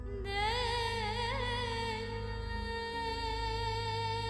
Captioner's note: emotive vocalisation